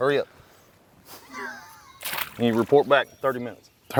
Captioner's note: laughs